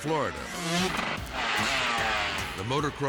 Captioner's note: bikes buzzing